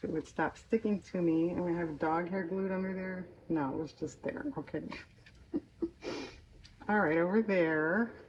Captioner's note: laughs